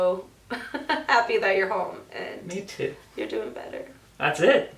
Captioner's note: laughs